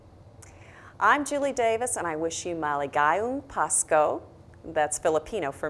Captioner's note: non english speech